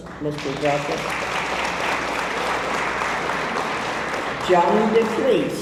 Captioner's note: audience applauds